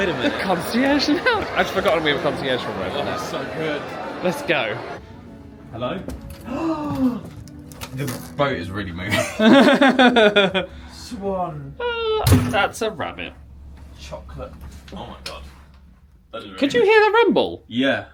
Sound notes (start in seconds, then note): 6.4 gasps; 9.1 laughs